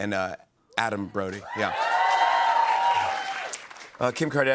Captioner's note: cheers and applause